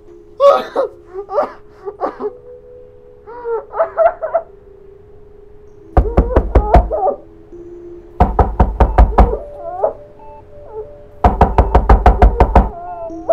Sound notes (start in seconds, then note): 0.3 muffled sobbing; 5.7 door knocking; 11.2 door knocking